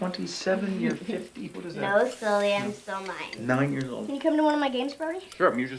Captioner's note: none